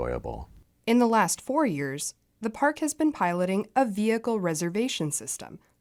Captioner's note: voice-over